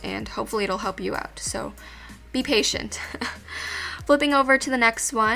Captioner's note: chuckles